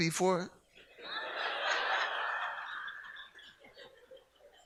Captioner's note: audience laughs